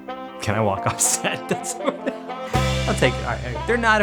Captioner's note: laughs